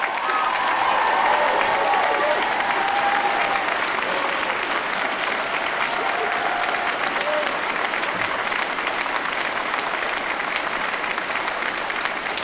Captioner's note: cheers & applause